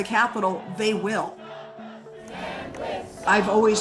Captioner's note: crowd